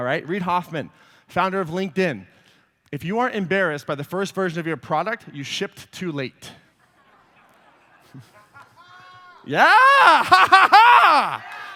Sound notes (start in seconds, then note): 6.9 laughter